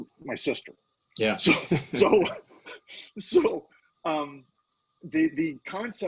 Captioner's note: laughing